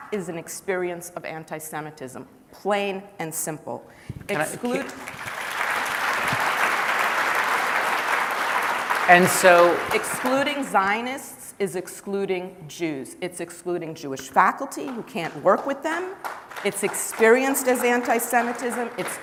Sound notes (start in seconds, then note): 6.9 applause